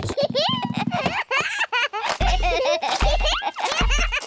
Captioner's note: both giggling